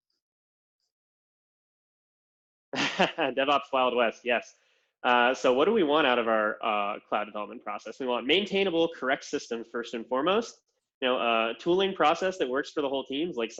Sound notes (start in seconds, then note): 2.7 laughs